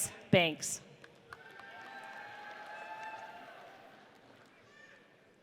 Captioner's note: audience cheers